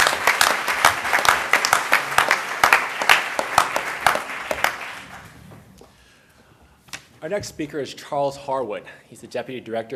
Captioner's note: applause